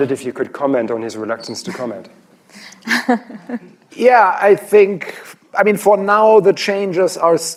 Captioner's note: laughter